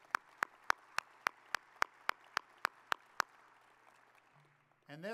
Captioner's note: audience applauding